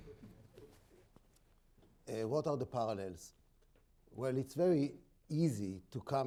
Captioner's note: laughter